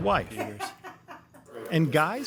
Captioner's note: laughs